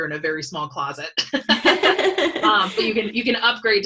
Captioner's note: laughs